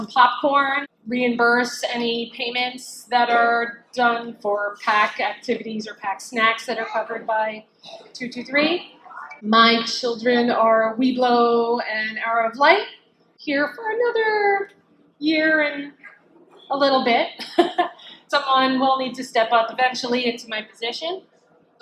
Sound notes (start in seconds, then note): 17.2 laughs